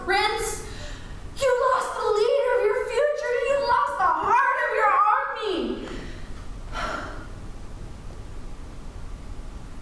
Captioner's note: sigh